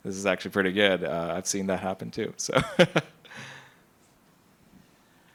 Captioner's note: laughs